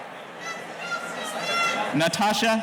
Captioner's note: murmurs